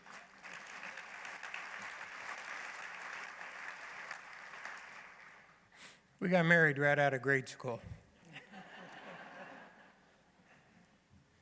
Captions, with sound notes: [laughter, applause] We got married right out of grade school.